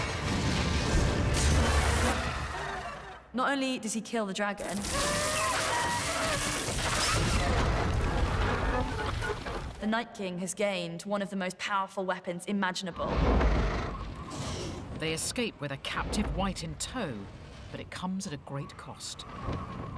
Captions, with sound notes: Not only does he kill the dragon... (ROARS) ..the Night King has gained one of the most powerful weapons imaginable. They escape with a captive wight in tow but it comes at a great cost